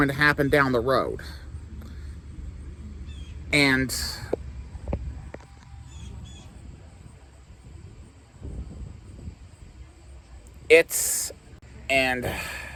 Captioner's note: Ava stammering